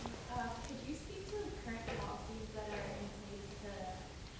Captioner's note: woman's Voice